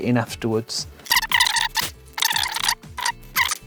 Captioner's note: solder sound